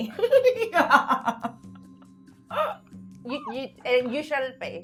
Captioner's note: laughing